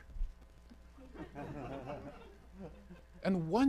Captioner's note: audience laughing